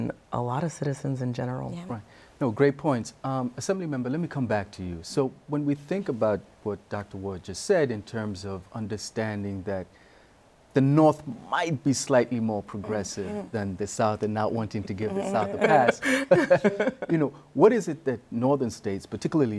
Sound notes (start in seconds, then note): 15.5 laughter